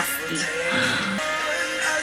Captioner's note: gasps